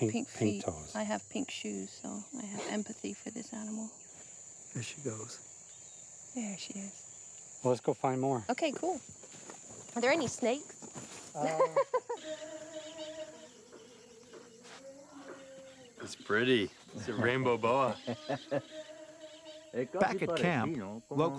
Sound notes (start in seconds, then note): 11.4 laughs; 17.7 laughs